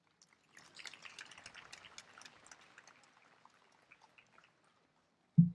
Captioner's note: applause